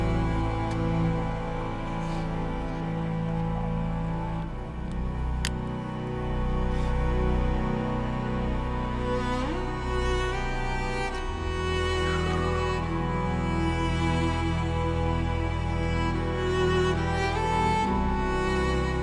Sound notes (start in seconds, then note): 4.8 click; 15.3 somber orchestral music